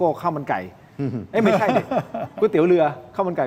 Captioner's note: laughter